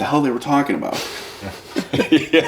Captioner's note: laughs